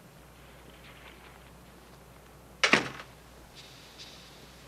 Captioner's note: door closing